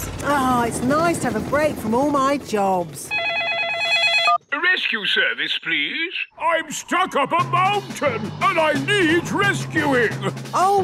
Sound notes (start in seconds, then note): 3.0 phone ringing